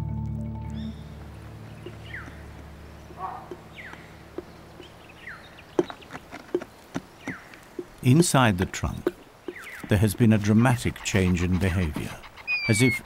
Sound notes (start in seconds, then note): 0.0 peaceful music; 0.6 birds chirping